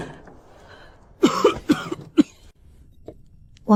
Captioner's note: cough, cough, cough